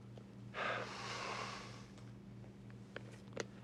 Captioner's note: sighing